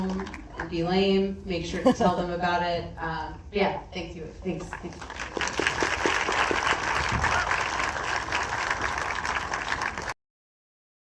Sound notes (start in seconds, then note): 6.3 applause